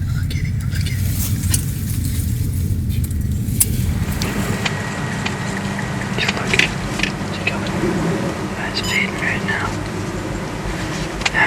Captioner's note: sound of light wind